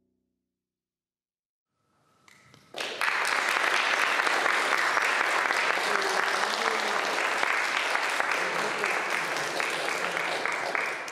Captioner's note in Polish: Aplauz